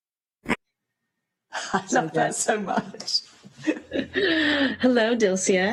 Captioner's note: laughs